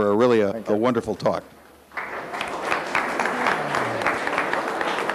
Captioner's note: audience applauds